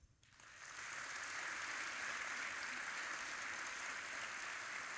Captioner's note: audience applauding